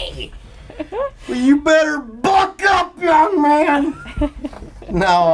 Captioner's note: laughs